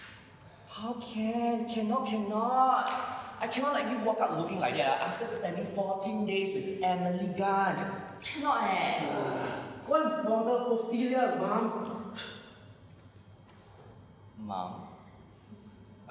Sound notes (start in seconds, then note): 8.8 ANTIGONE groans